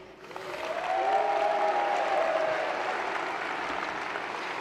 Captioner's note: applause